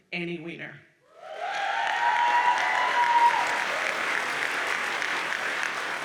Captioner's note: audience cheers and applauds